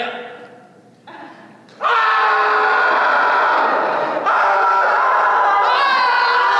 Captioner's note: screaming; more screaming